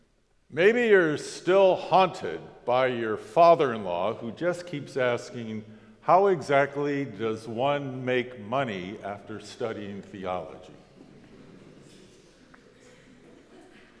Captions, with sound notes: Maybe you're still haunted by your father-in-law who just keeps asking, "How exactly does one make money after studying theology?" (crowd laughs)